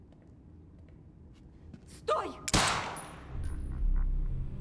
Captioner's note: gunshot; gunshot